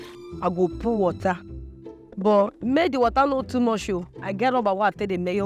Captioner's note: speaking in foreign language